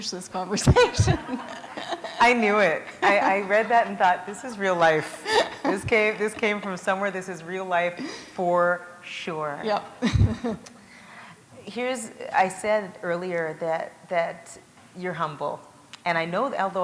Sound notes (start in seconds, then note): 0.6 laughter